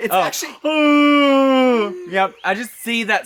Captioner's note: Trinity The Tuck vocalises